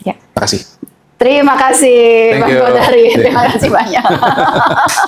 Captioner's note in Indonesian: tertawa